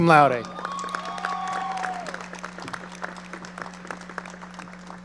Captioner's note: audience cheering